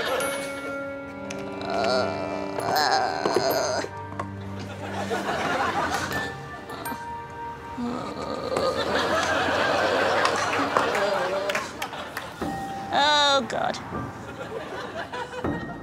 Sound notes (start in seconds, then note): 3.1 Sophie groaning; 6.4 laughter